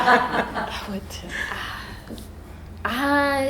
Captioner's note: all laughing